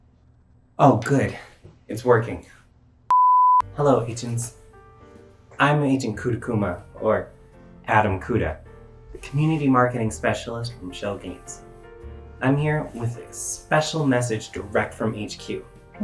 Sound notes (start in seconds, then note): 3.1 long beep; 3.7 instrumental music plays